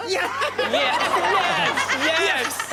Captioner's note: audience laughs